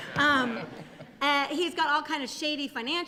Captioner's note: laughter